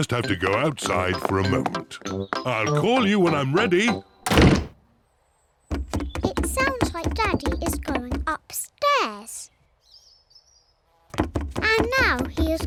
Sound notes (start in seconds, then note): 3.5 pounding trotters; 9.1 pounding trotters